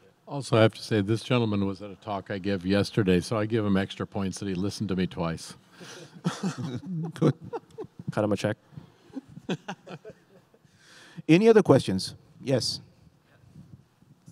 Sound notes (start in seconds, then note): 9.1 laughing